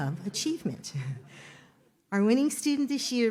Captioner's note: audience laughs